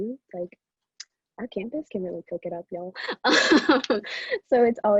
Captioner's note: laughs